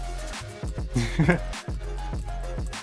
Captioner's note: laugh